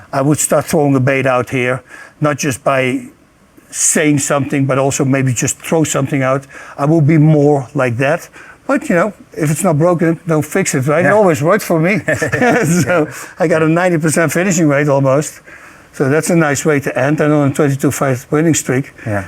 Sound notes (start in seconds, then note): 12.0 both laughing